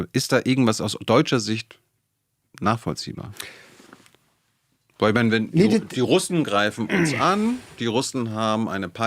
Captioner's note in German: räuspern